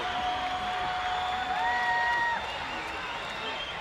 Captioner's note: crowd cheering